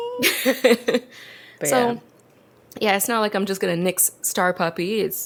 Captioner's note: laughs